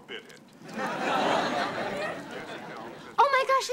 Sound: audience laughing

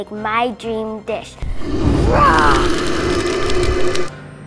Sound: roaring

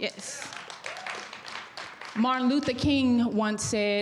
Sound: audience applauds

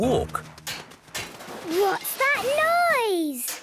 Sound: distant banging, crashes

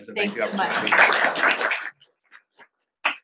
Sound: audience applauding

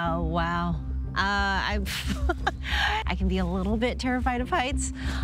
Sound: laughs

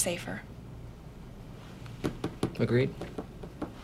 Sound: tapping

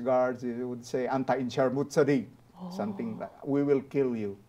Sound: speaking Arabic

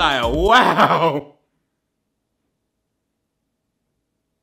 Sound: laughing

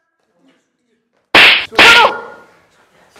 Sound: slap

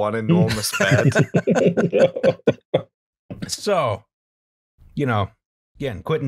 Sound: laughter

